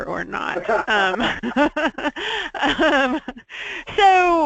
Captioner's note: laughing